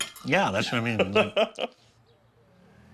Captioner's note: laughing